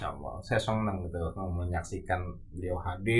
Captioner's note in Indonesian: none